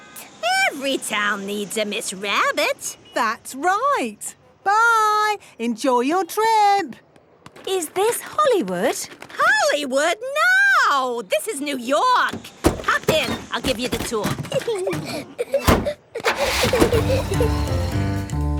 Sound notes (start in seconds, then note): 14.2 Peppa and George laughing